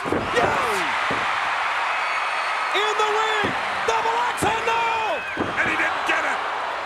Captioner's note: applause